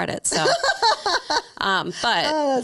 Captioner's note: laughing